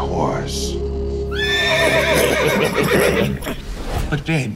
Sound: horse neighs; Levi laughs

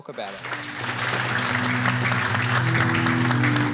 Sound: applause

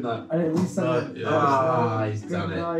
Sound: indistinct chattering

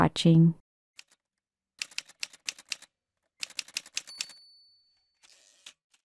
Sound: typewriter sounds

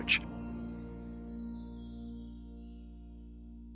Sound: chimes tinkling

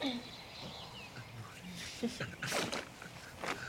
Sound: giggling

